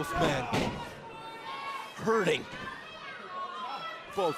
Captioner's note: crowd chatter